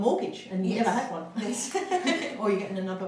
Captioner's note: laughs